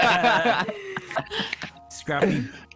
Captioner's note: all laugh; remaining giggles